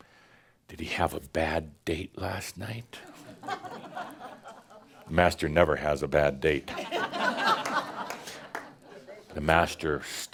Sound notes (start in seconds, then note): 3.3 some chuckles; 6.7 more laughter